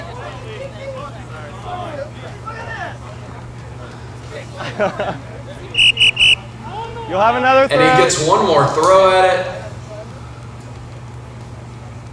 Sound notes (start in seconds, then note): 1.0 crowd talking; 4.6 man laughs; 5.6 whistle